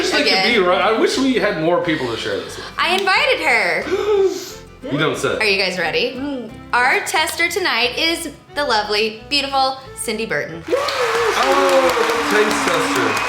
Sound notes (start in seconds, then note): 3.8 gasps; 10.6 cheering